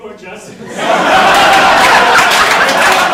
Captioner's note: audience laughing